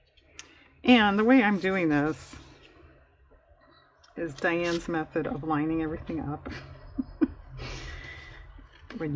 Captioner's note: laughs